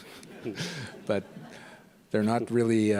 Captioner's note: chuckles; audience laughs